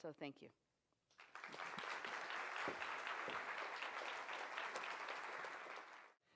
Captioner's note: applause